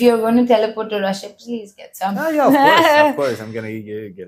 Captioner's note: laughs